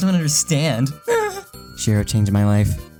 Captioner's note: whimper